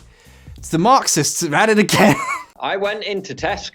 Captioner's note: laughs